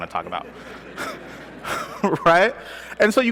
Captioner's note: laughter